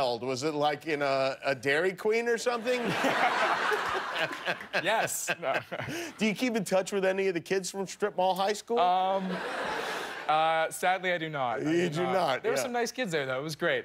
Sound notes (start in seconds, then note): 2.6 laughter